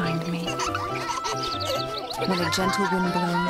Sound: kids laughing

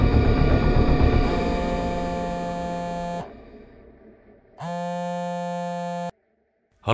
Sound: phone ring

